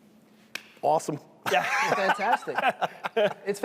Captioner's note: laughter